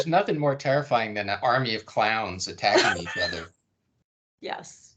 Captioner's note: laughing